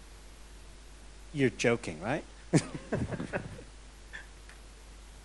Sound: laughs

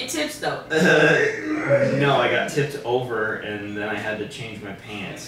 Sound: laughing

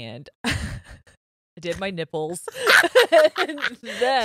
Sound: both laughing

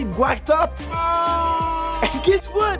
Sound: boos

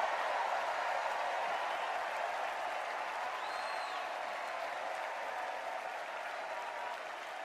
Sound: cheers and applause

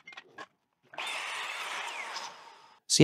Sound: saw whirring

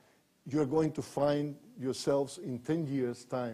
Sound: none

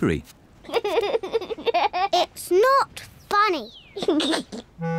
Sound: giggles

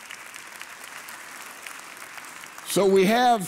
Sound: congregation applauding

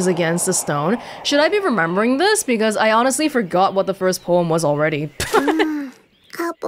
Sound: chuckles

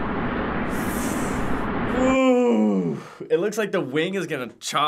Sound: sucks in breath

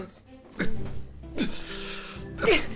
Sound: sigh

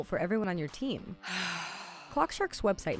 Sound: sighing

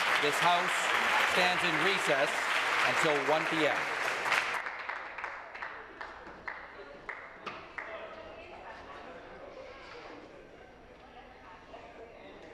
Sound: some Applause

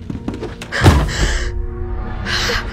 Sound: shocked breaths

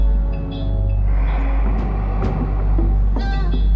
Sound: doors closing

